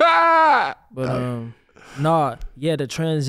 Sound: laughs

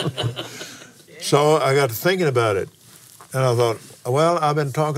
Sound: laughs

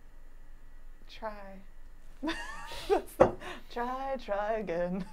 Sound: laughing

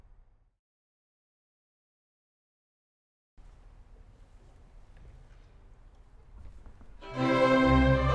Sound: silence

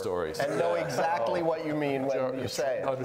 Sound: laughing

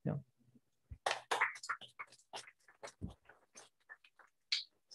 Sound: applause

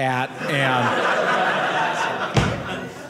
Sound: audience laughing

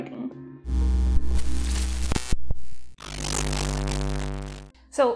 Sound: glitching sounds

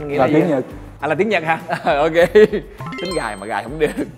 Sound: laugh

